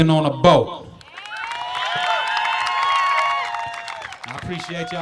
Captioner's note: crowd cheering